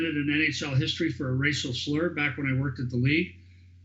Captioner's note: chuckling